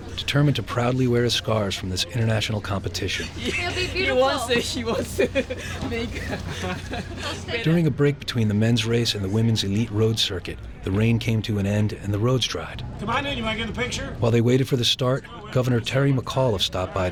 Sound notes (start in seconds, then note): 7.5 voiceover